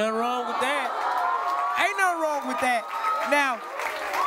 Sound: cheering, applause

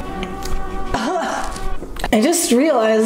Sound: cough

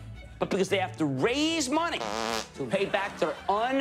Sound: fart noise

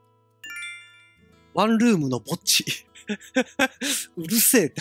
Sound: giggle

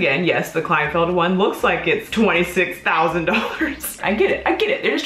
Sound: laughs

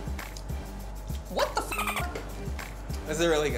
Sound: dolphin chirps

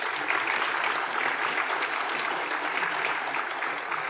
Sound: applause

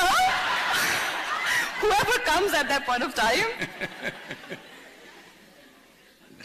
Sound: laughter; Sadhguru Laughs

